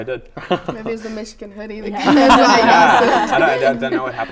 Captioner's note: laughter